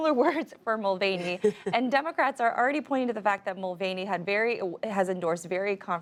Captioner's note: laughter